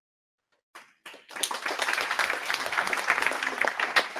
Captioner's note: applause